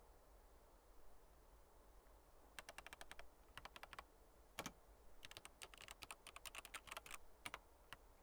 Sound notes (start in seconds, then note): 2.7 computer keys clicking